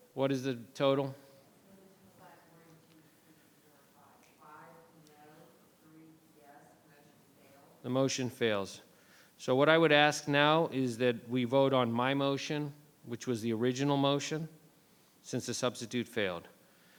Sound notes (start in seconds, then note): 2.8 faintly speaking